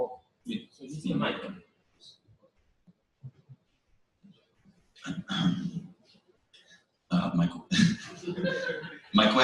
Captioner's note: pause